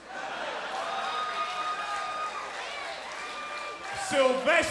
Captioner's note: crowd cheering